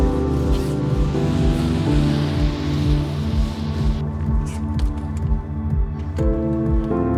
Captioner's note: gentle piano music; passing-by car revs